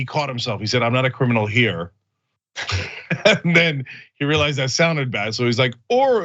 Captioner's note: laugh